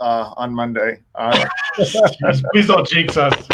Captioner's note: both laugh